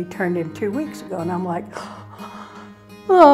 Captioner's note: gasps